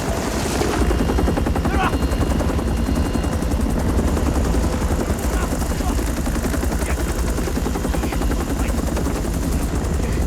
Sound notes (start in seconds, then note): 0.3 Korean; 5.4 Korean